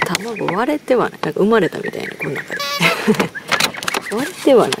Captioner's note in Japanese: 笑い